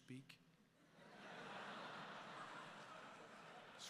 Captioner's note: laughter